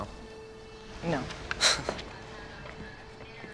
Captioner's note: chuckles